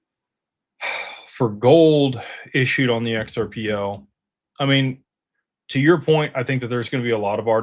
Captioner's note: sighs